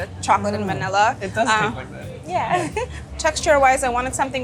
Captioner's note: laughing